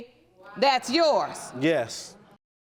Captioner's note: audience reacts